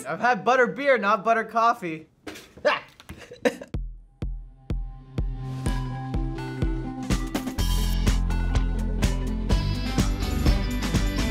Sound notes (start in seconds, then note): 3.0 laughs